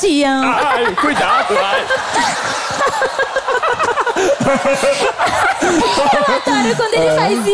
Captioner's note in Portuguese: risos